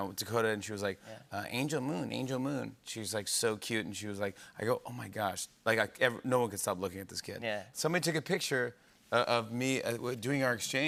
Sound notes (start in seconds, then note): none